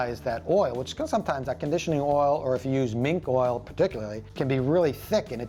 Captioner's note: none